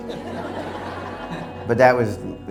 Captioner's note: audience laughing